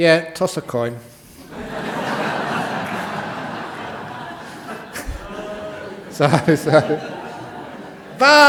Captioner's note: laughter